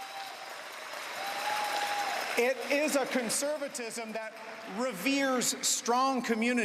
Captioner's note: cheering and Applause